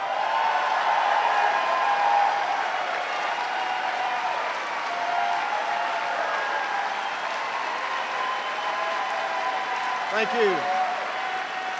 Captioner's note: cheers and applause